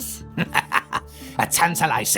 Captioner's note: laughs